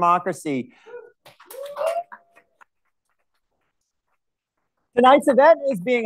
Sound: audience chattering

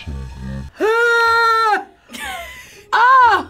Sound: gagging

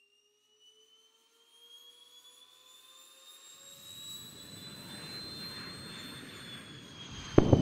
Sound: jet engine revving up; sonic boom

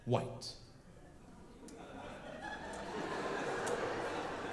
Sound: audience laughs

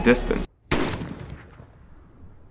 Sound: bang

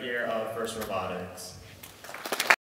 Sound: applause

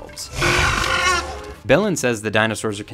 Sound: raptor roars

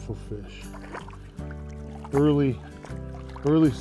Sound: splashing

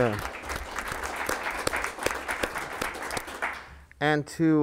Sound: board members clapping

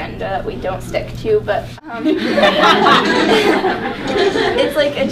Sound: everyone laughing

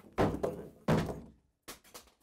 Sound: banging

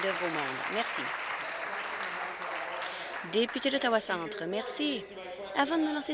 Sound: applause

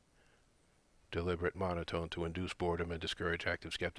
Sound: deliberate monotone

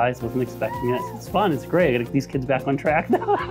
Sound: laughs

